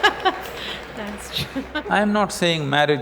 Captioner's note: laughs